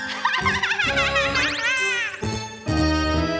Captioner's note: cackles